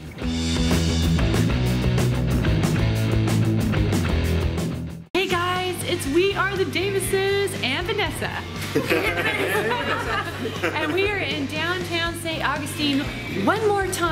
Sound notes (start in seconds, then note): 0.0 upbeat rock music; 8.6 laughs